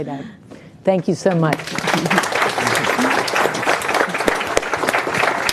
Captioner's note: audience clapping